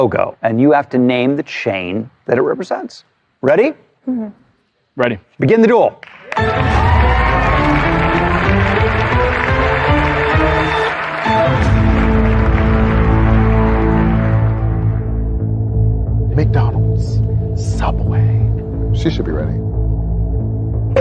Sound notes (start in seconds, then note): 6.2 cheering and applause; 6.2 dramatic music; 11.0 dramatic music climaxes